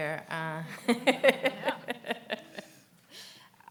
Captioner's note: laughs